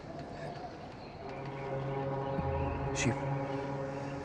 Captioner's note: boat horn blaring